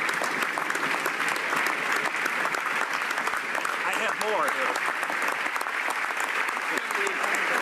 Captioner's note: applause